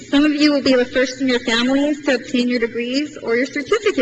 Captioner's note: none